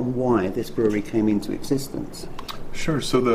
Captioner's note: none